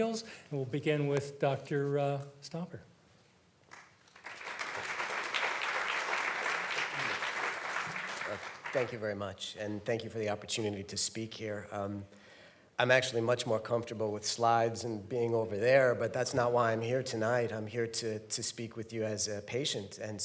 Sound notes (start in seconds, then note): 3.6 audience clapping